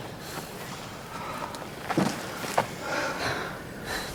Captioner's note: girls panting